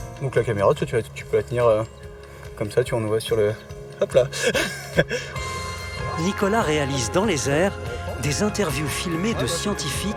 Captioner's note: laughs